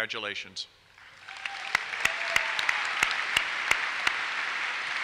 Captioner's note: applause